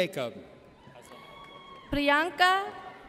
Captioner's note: audience cheers